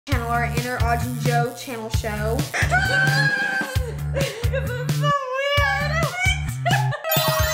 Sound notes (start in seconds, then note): 2.6 both crying out; 5.5 laughs